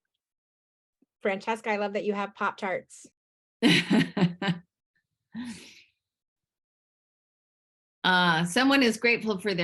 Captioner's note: laughs